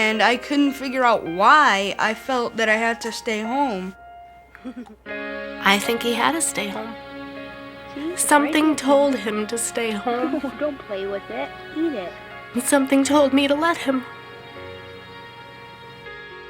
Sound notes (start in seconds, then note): 9.8 laughs